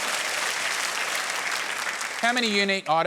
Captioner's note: applause